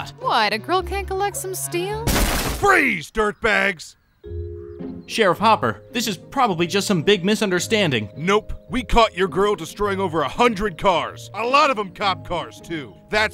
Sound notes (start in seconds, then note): 2.0 wood thudding; 3.8 upbeat calm music begins